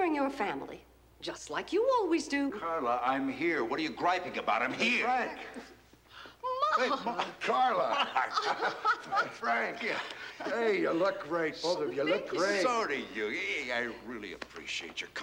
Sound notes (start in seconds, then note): 6.5 chuckling